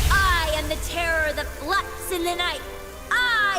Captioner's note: explosion